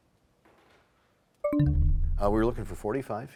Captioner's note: bell chimes, time expires